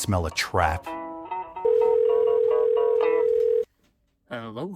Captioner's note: phone rings